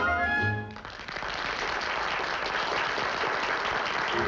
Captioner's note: applause